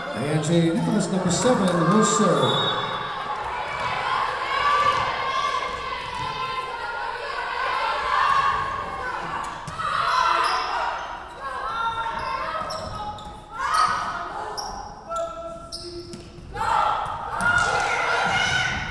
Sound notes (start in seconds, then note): 2.4 whistle blowing